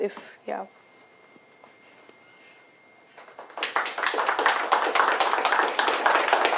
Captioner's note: applause